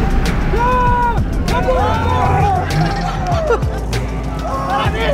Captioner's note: driver and crew cheering